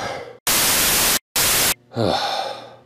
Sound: static; sighs

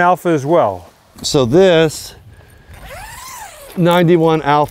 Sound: zipper scrapes

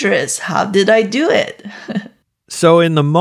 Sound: chuckles

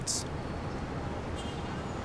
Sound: traffic and cars honking

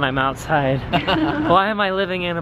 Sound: laughing

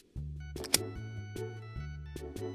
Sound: buckle clicks

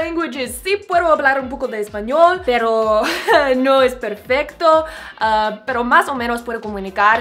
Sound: talks in Spanish

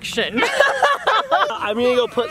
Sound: laughing

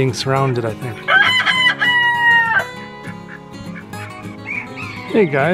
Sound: rooster crowing

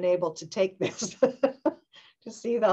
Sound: laughing

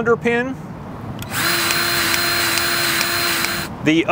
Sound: grease gun revving

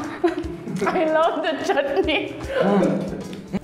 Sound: laughs

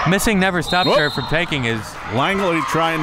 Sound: whistle

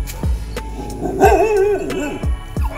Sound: huge dog barking at Mocha

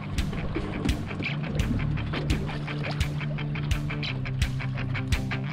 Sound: fish splashing

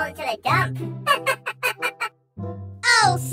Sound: Toy Bonnie laugh

